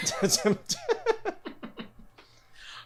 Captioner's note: laughing